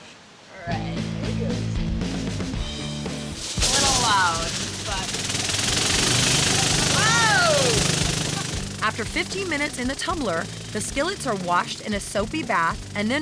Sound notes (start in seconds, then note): 5.3 sputtering